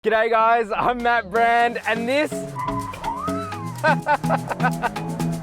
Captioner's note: laughs